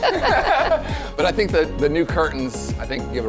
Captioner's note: laughs